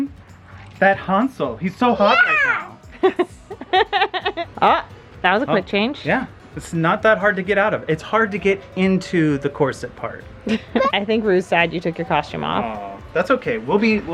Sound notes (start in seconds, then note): 2.9 giggles